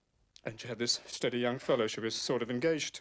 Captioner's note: none